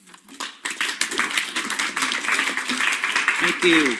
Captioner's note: applause